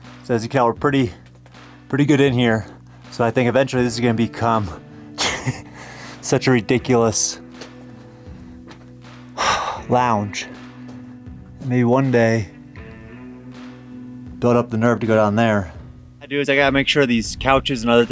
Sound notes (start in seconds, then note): 5.2 chuckles; 9.3 sighs